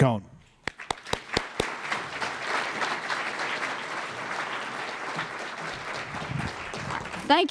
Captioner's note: applause